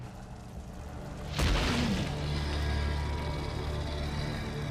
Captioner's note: ominous music; sphinx snarling